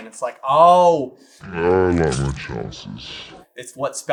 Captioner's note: slo and deep